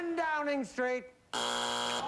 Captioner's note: buzzer